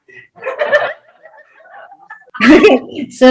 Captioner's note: audience laughs